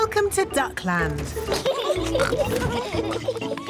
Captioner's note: both giggling